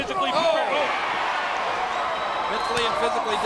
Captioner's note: audience cheering